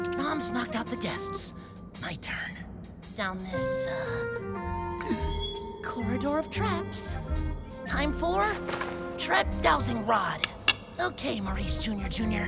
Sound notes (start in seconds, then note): 0.0 sighs, quietly; 4.3 gulp; 10.2 pulls out his trusty stick, starts tap-tapping with it